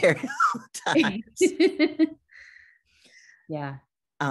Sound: both laugh

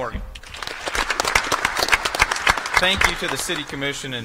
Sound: applause

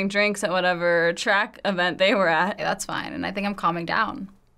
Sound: men speaking foreign language

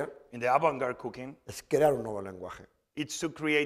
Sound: speaking spanish

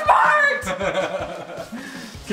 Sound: laughs

